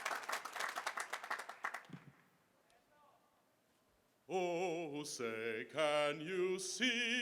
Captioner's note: applause